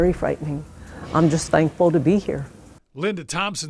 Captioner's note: metal clangs distantly